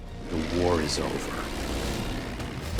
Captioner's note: engines whirring; dramatic music